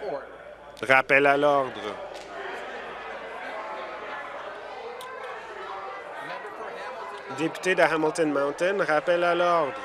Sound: conversation din

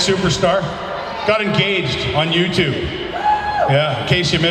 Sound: crowd cheers

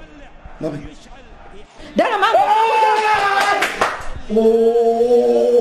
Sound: screams

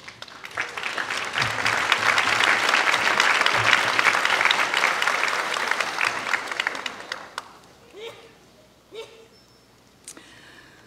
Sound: applause

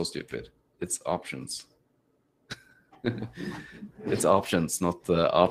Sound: chuckles

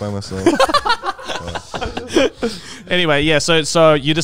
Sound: all laughing

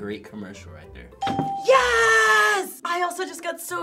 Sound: bell rings

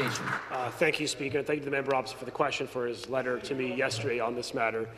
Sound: applause

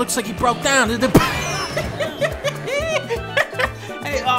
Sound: Dunkey laughs

